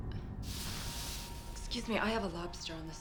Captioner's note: water hissing